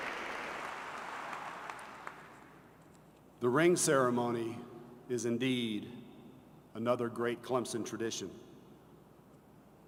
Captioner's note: applause